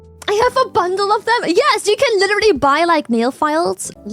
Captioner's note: laughs